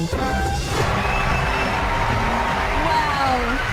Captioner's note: applause